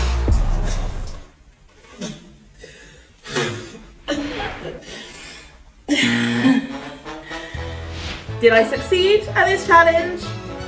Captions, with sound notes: (coughing noise) (fail horn blares) (upbeat jazz music plays) Did I succeed at this challenge?